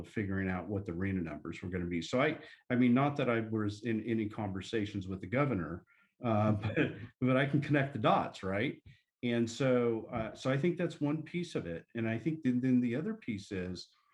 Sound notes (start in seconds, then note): 6.4 laughter